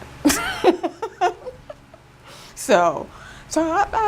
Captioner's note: laughing